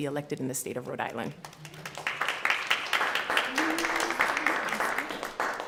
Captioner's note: applause